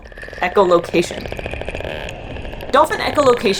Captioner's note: dolphin echolocation vocalizations